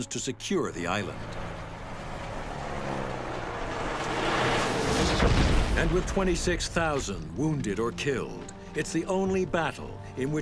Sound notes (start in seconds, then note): 0.4 airplane engines rumbling; 4.9 bomb exploding